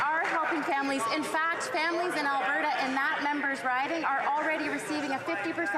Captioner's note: some Applause